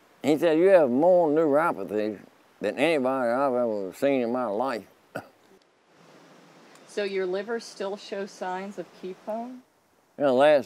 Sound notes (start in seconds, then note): 6.1 laughing